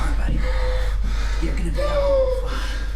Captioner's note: Keith hyperventilating